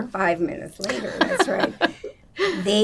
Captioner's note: laughing